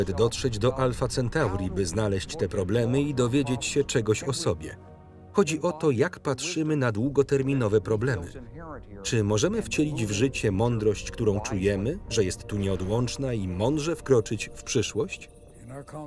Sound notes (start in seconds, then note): 13.7 crickets chirp